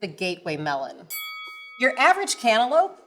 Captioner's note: bell dings